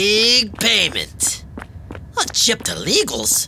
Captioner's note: girls' footsteps fading